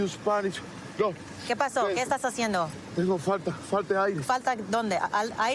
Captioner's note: speaking spanish